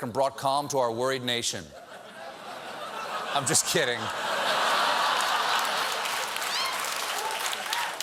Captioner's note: laughter